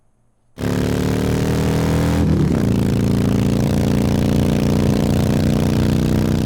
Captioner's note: motorcycle engine roars